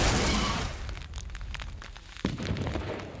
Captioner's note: crackle